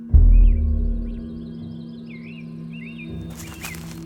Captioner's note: birds chirping; leaves crunching; birds chirping